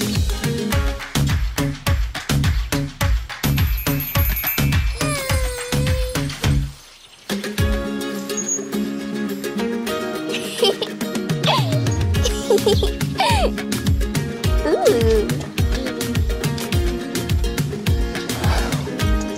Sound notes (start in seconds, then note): 0.0 bright music; 0.0 rhythmic clapping; 7.3 bright, whimsical music; 12.1 girls giggling